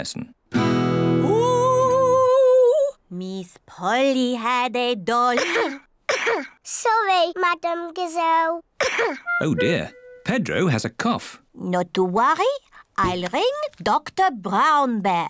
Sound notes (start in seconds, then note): 0.6 strums guitar; 5.3 coughs; 8.8 coughs